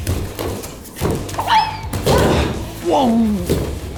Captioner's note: swoosh